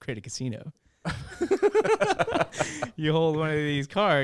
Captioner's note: laughs